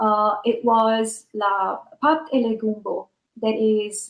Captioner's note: non-english speech